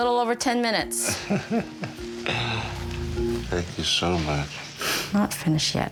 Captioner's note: laughs